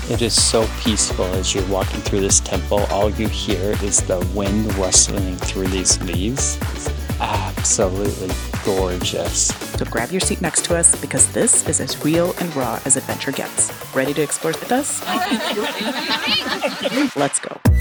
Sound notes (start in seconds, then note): 14.7 laughing